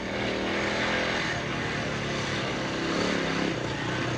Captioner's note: none